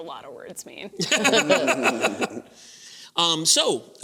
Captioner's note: laughter